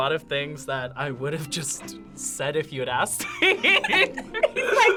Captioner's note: laughs